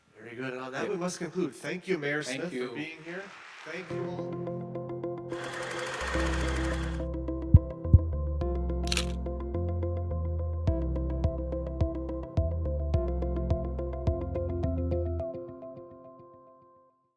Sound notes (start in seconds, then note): 4.3 audience applauding; 4.8 bright music; 4.8 projector clicking; 9.7 bright music continues